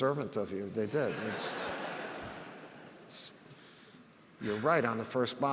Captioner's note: audience laughs